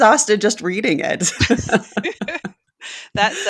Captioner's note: both laughing